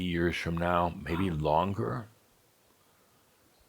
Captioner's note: whispers